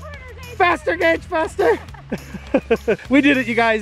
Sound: laugh

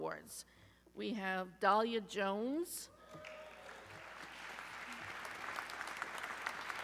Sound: audience cheering

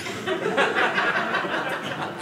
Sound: audience laughing

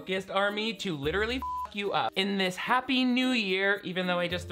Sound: beep

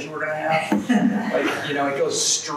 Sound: audience laughs

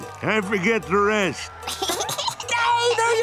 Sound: giggling

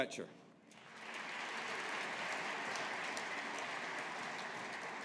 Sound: audience applauding

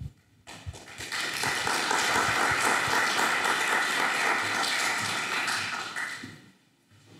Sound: applause

